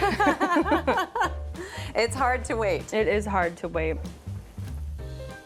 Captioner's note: laughs